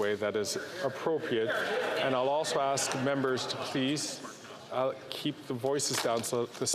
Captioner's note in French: voix de l'interprète